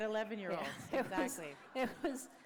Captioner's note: laughter